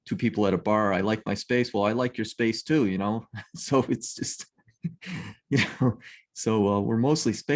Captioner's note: laughs